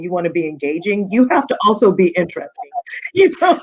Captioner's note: laughing